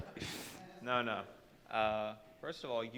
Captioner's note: audience laughing